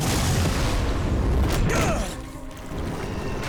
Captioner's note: grunting